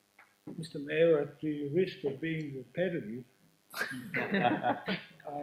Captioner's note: laughing